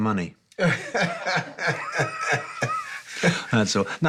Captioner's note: laughter